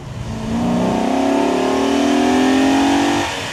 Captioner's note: engine revving